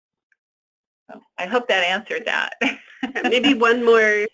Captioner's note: laughs